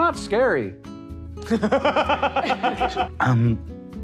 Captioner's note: players laughing